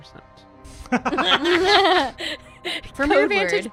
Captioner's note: laughter